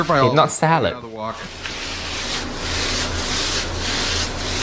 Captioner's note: food sizzling